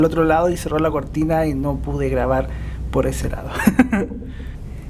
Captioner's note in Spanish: risas